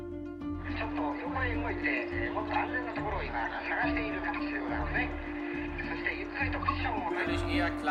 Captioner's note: news reports playing in multiple languages